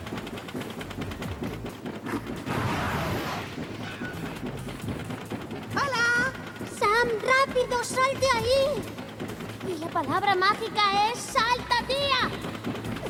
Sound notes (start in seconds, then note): 2.4 whoosh